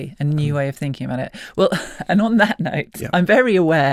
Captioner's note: chuckles